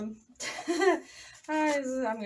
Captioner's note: awkward laughing